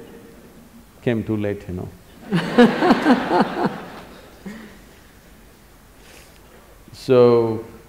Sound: laughter

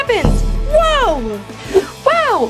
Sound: loud boom

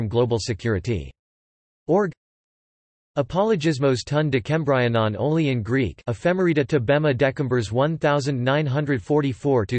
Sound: only in Greek

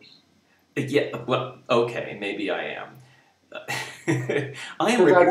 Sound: laughing

